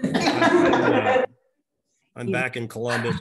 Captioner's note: chuckling